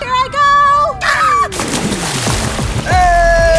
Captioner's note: screaming